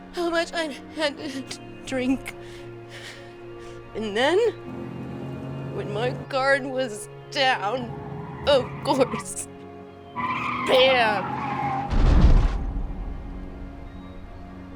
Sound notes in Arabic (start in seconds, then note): 9.9 صرير الإطارات; 11.8 سيارات تتحطم